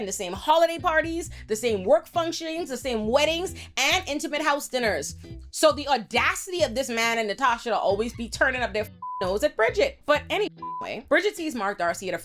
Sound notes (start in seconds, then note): 9.0 beep; 10.6 beep